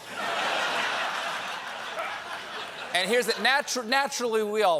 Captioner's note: laughter